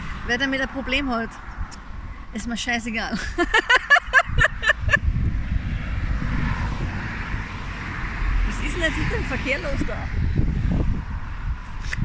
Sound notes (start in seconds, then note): 3.1 laughter; 5.6 traffic